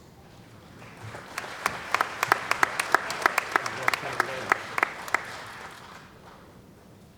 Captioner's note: applause